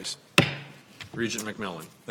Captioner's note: gavel bangs